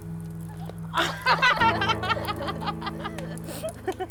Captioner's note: women laughing